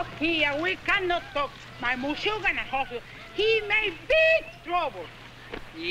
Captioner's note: speaks in Spanish